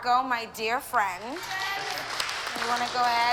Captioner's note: applause